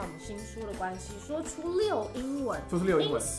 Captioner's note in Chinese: 說出溜英文